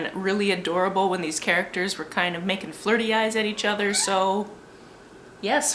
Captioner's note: cat meow